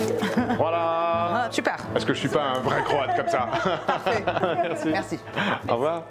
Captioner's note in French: rires; rires